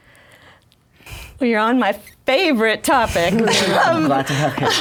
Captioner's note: laughs